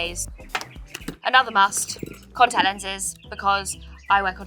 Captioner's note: tuba taps tabletop